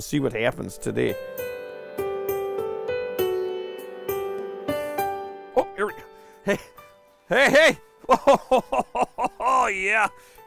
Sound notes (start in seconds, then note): 8.0 laughter